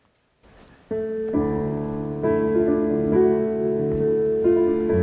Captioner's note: played through a Bluetooth speaker